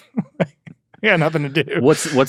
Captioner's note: laugh